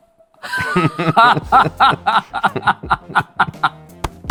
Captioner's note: both laugh